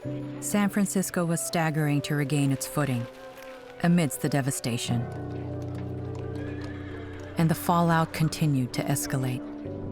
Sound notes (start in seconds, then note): 6.5 horse whinnying